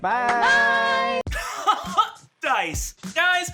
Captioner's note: laughing